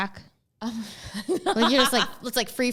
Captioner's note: laughing